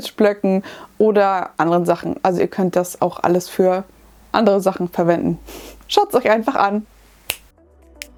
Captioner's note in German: schnips